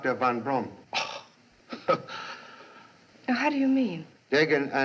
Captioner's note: scoffs